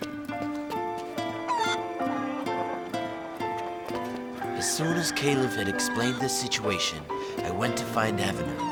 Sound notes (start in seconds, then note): 0.3 upbeat music; 1.4 chicken cooing